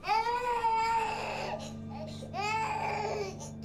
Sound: baby crying

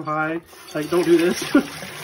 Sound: laughs

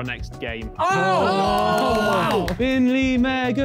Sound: men cheering

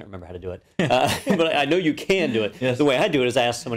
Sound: laugh

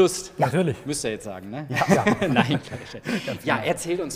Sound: polyphonic laughter

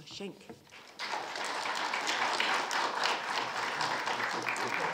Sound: audience applauding

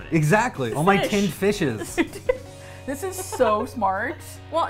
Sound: laughs

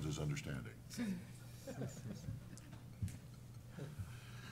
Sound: chuckle

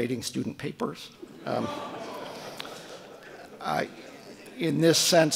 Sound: audience laughing

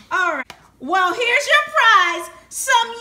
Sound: voiceover

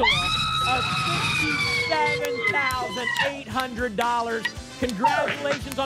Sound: applause and cheering

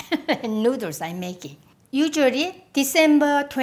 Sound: laughs

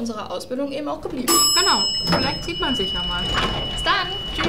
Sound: elevator bell; door opens

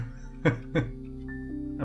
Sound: laughs

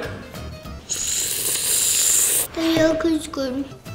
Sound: slurps

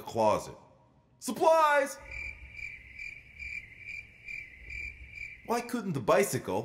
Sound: crickets

